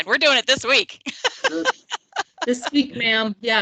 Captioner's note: laughing